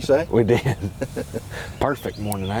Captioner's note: laughs